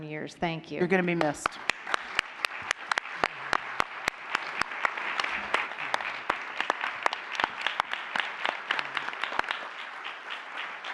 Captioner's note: applause